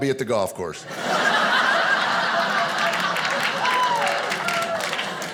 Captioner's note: audience laughing